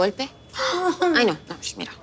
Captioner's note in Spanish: Exclamaciones